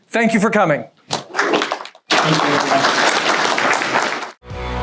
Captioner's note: audience applauds; upbeat music